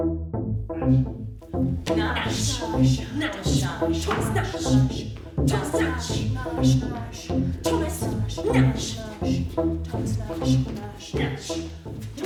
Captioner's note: multiple voices repeat 'nashe/thomas nashe'